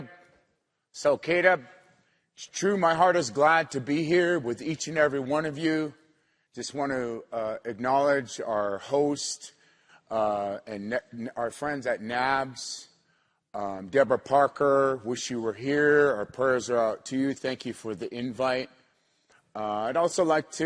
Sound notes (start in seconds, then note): 2.0 not speaking english